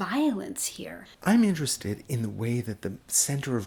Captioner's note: voiceover